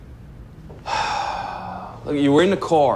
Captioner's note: sighs